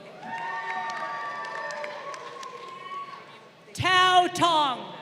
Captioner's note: crowd cheering